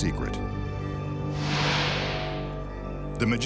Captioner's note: light beam swishing